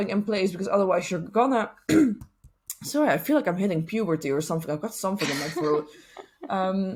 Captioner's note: coughs